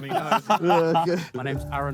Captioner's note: Sidemen laugh